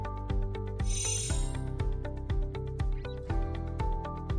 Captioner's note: chiming